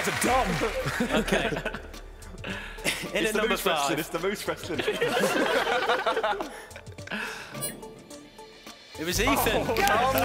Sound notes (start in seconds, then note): 4.8 laughing